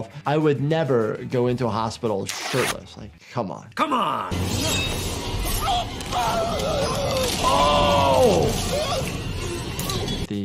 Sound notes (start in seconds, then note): 4.3 tense ominous music; 4.7 machete zinging